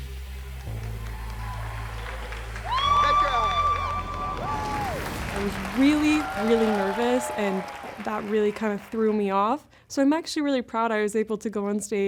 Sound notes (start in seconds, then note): 0.3 cheering, applause; 2.4 whooping